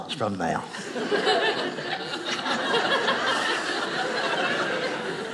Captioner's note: audience laughing